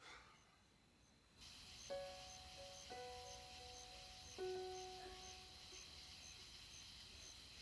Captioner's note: crickets chirping; calm piano music